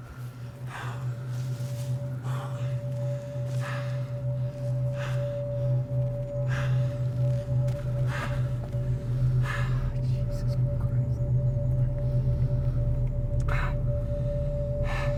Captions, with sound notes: (pants) (tense music) Jesus Christ!